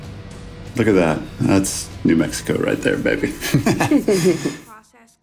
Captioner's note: laughs